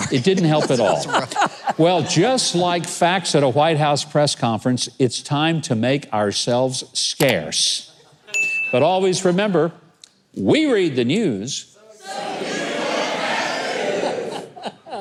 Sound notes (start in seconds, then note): 0.0 audience laughing; 8.3 bell dings